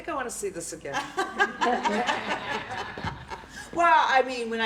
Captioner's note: laughter